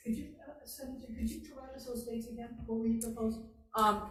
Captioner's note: offscreen Voice